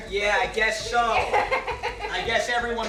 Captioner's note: laughs